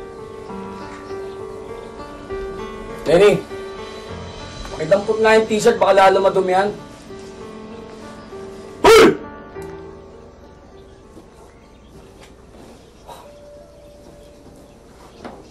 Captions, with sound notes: Benny, pick up that t-shirt. Before the stain gets worse. [yells] Hey!